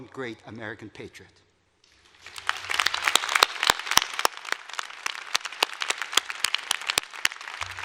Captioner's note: applause